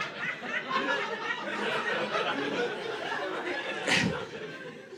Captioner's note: audience laughing